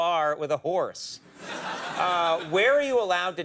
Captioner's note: audience laughing